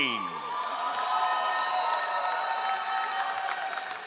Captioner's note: all applauding